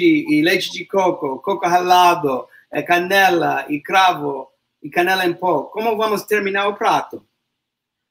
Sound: speaks portuguese

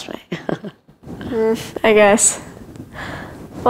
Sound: Dr. Robertson chuckles

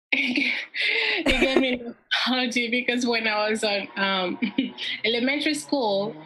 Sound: laughs

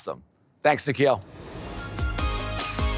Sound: transition whooshes

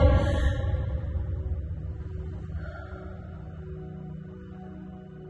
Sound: breathing

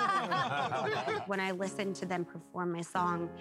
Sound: laughter

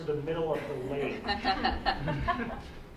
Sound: laughing

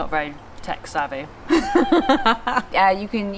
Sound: laughs

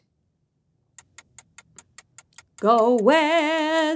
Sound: clock ticking

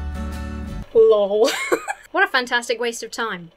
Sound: folky music; laughs

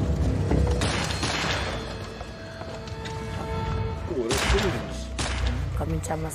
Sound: gun blasts

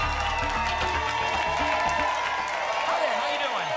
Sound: applause and cheering cont

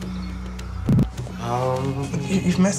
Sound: chanting

